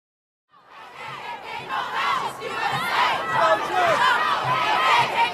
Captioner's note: loud cheering and shouting